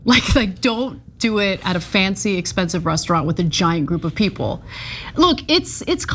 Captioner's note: laugh